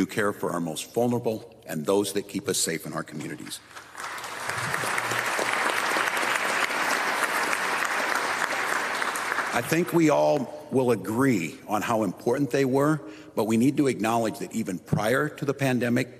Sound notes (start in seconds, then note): 7.3 applause